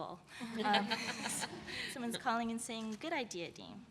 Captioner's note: laughter